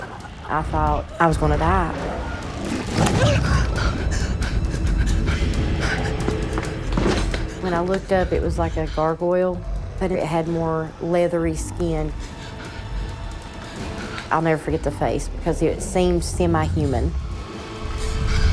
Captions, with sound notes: I thought I was gonna die. (Candace Re-Enactor gasping) (thumping) When I looked up it was like a gargoyle, but it had more leathery skin. I'll never forget the face because it seemed semi-human.